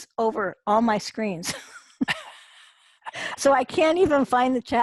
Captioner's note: laughter